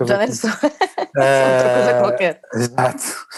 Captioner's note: laughs